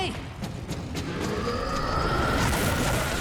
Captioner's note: roar